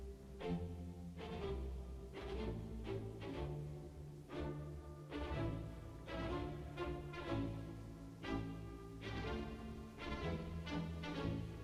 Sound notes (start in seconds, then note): none